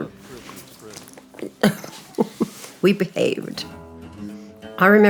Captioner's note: laughter